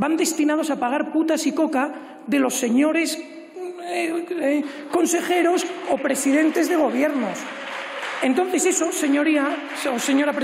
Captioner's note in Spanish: Aplausos